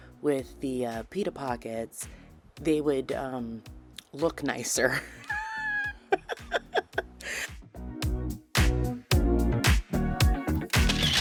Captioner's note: wheezy laugh